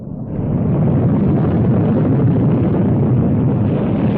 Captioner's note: ocean waves rumbling